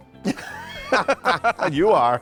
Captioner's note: both laughing